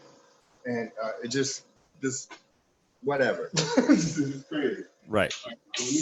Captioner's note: laughs